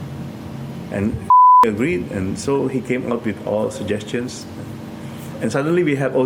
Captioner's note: beep